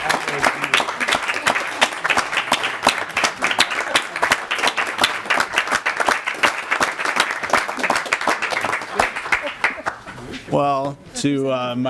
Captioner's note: applause